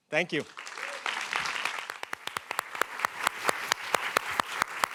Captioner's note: applause